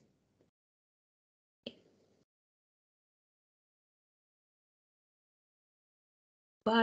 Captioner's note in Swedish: Tystnad